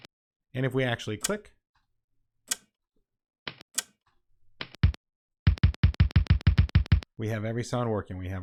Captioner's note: various click sounds